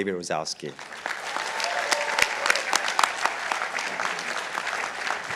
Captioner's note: participants applauding